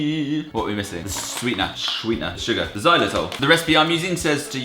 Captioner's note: regular voice